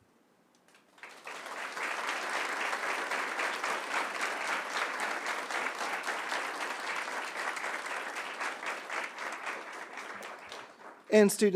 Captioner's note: applause